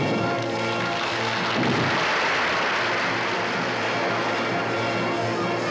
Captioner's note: grand orchestral music; audience applauding